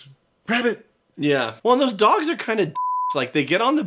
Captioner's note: beeps